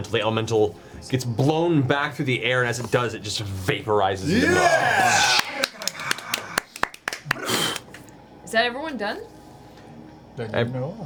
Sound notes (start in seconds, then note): 4.3 all cheer